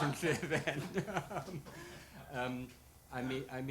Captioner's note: laughs